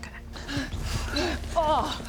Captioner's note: unfit panting